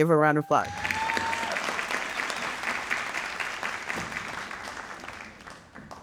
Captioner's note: audience cheering and applauding